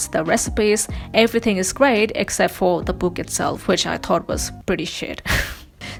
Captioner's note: laughs